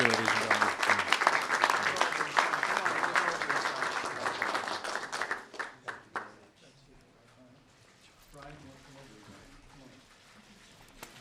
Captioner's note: applause